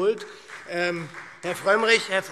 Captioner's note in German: Beifall SPD und Freie Demokraten